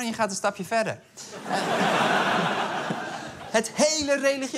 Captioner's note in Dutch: Gelach